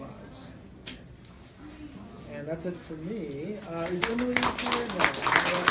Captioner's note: clapping